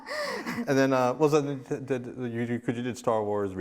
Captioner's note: laughs; stammering